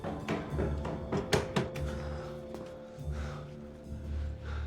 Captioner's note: breathing heavily